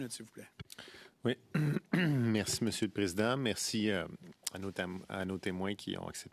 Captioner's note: speaking French